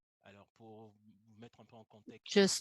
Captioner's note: speaks french